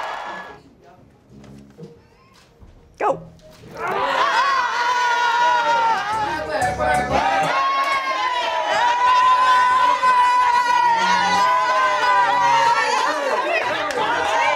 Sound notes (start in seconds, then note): 4.9 screaming